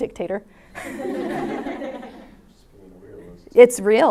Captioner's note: class laughs; chuckles